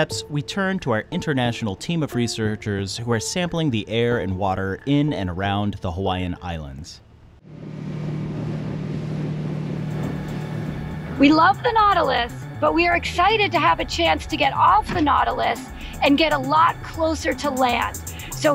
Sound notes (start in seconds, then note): 7.6 boat engine rumbling